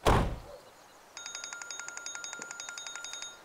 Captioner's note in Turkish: Telefon çalıyor